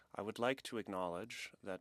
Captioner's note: speaking French